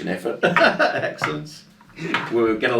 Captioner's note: laughs